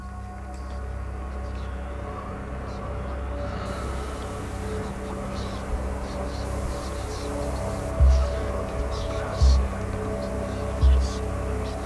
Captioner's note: whispers